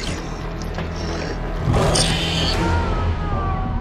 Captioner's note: tense music continues; creature growling; Gordon screaming